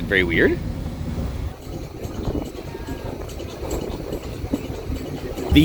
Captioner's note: water splashing